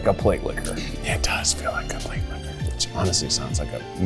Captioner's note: whispering